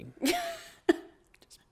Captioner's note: laughs